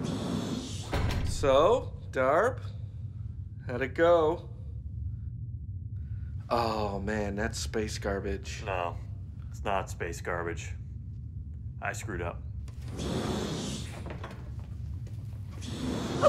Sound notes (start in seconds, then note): 12.6 door opening